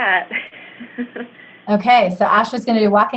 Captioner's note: laughs